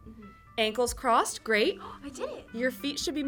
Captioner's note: gasps